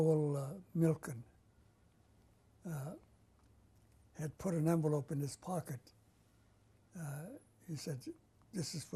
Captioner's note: pauses for 3 seconds